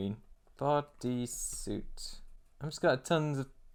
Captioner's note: typing